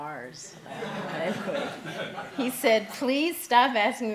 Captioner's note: laughing